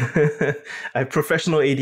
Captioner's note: laugh